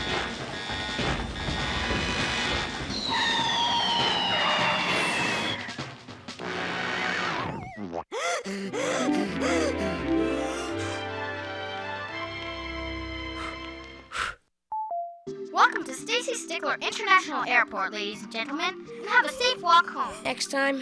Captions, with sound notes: (Brakes screeching) (Panting) Welcome to Stacy Stickler International Airport, ladies and gentlemen. You have a safe walk home.